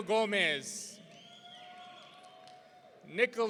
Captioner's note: audience cheering